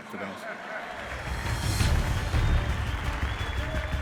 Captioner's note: laughter; applause